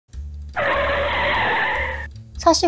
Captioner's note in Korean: 브레이크 소리